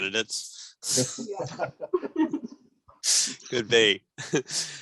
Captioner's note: laughs